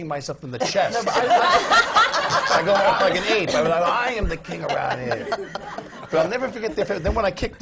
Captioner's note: laughter